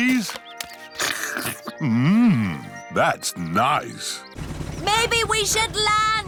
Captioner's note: slurps